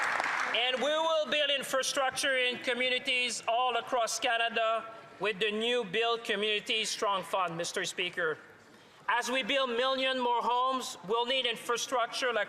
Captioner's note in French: applaudissements